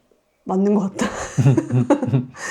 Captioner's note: laughs